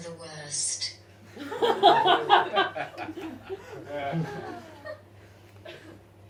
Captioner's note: audience laughs